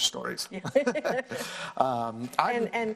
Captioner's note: laughs